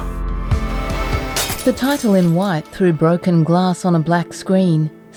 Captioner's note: glass smashing